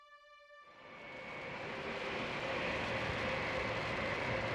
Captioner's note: plane engine roaring